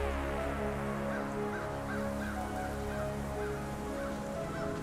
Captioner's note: somber music; birds squawking